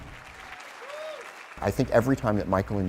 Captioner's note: audience claps